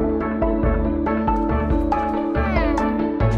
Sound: fluttering footsteps; bird vocalizes

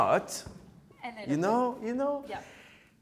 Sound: breath whooshes

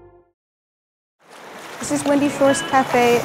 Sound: water rushing

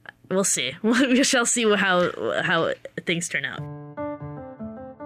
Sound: laughs

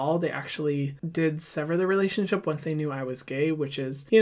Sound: none

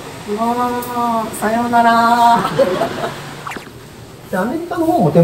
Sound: laughing

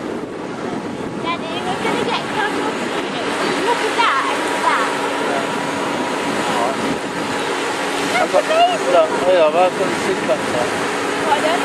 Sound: sound of the sea lapping against the shore

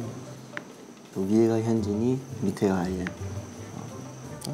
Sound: excited

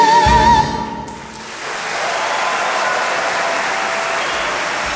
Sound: audience cheering

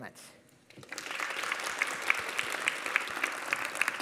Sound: applause

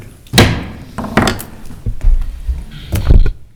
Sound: gavel knocks

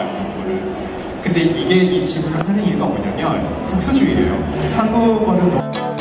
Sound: Panelist is speaking in Korean

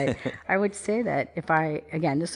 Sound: laughs

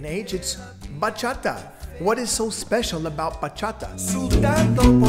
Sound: emulating the bass

